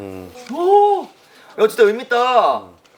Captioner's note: holding back his tears